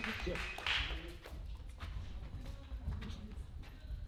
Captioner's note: applause